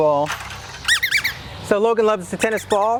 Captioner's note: squeaking